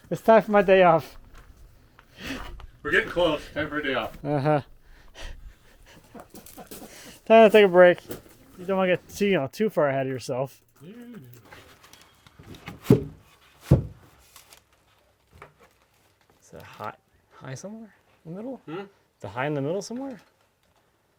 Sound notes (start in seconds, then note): 5.6 chuckles